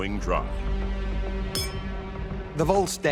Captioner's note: suspenseful music continues; glasses clink